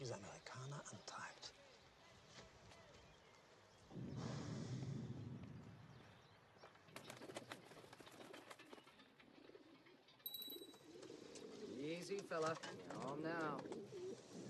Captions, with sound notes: [BELL RINGS] Easy, fella. You're home now.